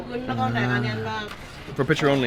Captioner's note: woman speaks in foreign language